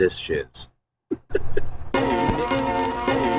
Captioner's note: giggles